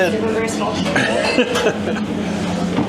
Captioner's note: laughter